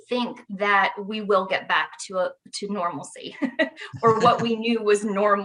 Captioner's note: laughs